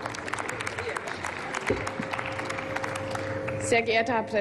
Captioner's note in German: Applaus